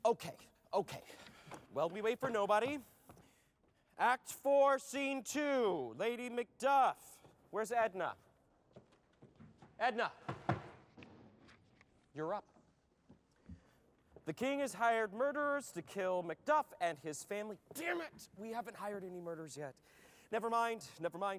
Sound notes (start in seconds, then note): 10.2 taps foot